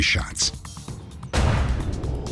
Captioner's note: gunshot